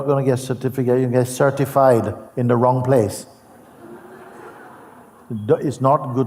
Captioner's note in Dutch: gelach